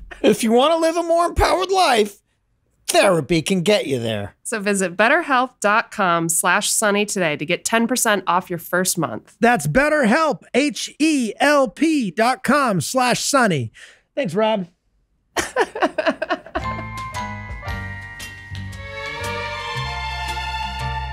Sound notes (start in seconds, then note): 15.3 laughs; 16.5 lighthearted orchestral music